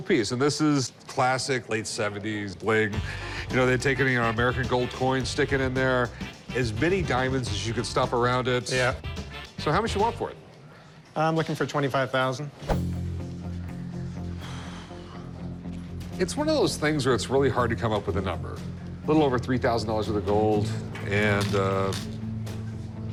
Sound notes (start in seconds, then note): 12.1 sighs; 12.7 suspenseful music